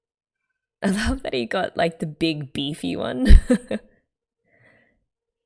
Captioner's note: laughs